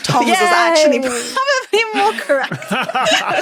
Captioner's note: laughs; laugh